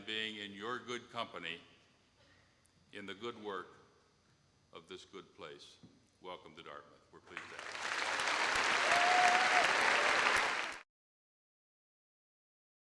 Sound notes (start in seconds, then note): 7.3 audience cheer and applause